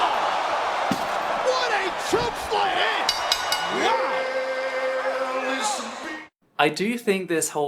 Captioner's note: crowd cheerring